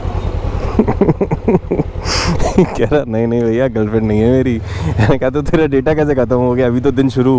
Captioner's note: laughing